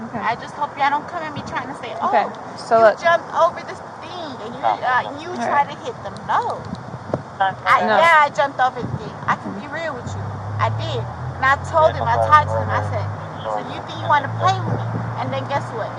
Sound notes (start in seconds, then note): 7.4 radio chatter; 11.4 radio chatter